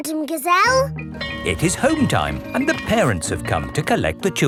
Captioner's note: bell tolling